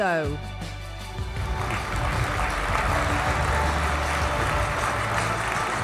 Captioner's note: applause